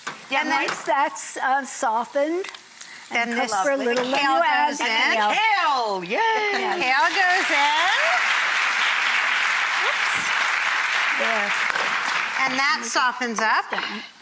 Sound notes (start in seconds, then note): 6.8 audience claps